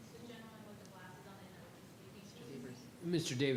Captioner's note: faintly speaking